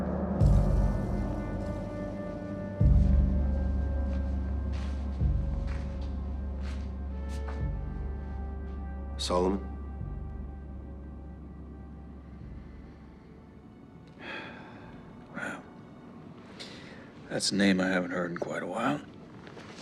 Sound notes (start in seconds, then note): 0.3 tense music playing; 14.2 sighs